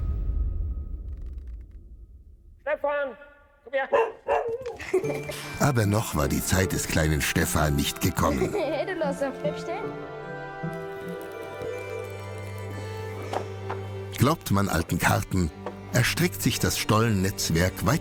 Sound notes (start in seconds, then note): 3.8 dog barks; 4.4 laughter